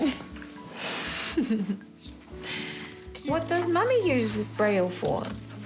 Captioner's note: laughs